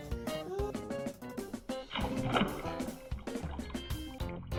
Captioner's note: water splashes